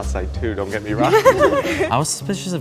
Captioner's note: group laughing